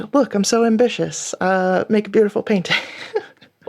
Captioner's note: laughing